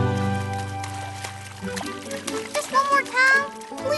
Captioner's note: splashing